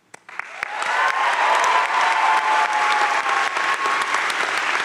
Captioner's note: crowd cheering and applauding